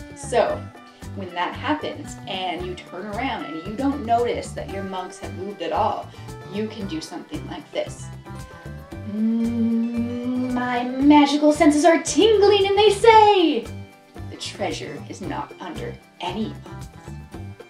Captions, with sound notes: So when that happens and you turn around and you don't notice that your mugs have moved at all, You can do something like this: [Hums] My magical senses are tingling and they say, the treasure is not under any of them.